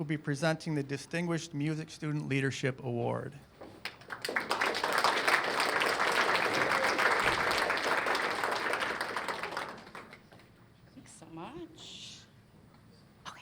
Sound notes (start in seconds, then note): 3.8 applause